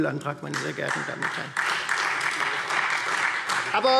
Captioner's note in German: Beifall Freie Demokraten